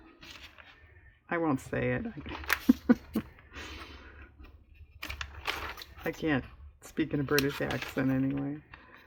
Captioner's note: laughs